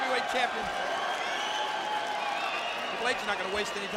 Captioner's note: fans cheering